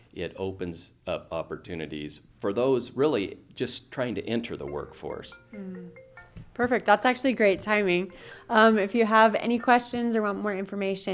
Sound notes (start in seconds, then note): 5.3 phone trilling